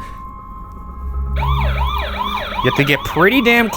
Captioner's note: motion alarm blaring